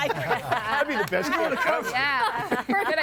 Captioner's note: guests laughing